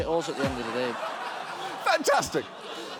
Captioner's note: audience laughs